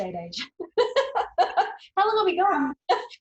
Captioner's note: laughing